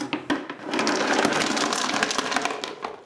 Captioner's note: rocks tumbling